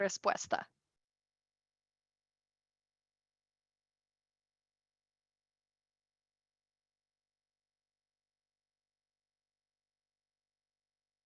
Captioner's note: silencio